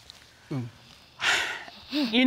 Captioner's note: judge dana sighs